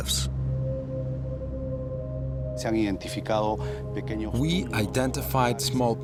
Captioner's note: speaking Spanish